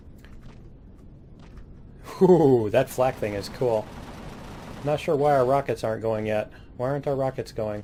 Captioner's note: cannons